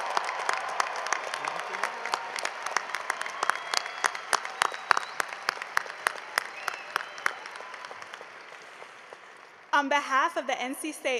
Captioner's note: cheering and applause